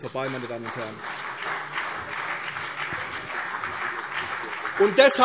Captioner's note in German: Beifall CDU und vereinzelt BÜNDNIS 90/DIE GRÜNEN